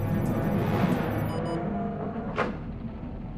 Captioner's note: alarm